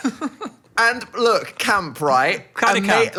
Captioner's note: laughing